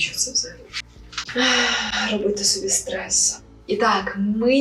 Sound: exhalation

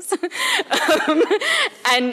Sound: laughter

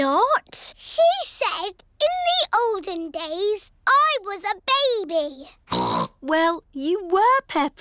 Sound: snorts

